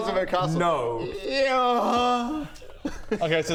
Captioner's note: eeeerruggggh